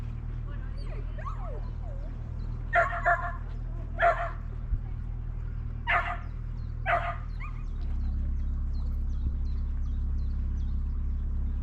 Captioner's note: dog barking